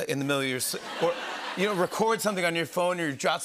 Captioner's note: laughter